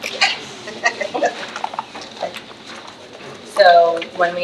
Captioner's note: trustee laughs